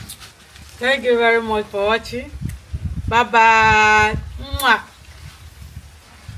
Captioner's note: kisses